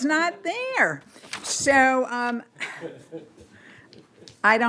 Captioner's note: laughter